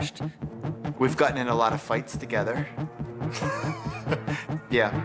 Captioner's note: laughs